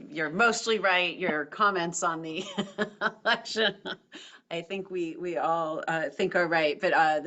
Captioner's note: laugh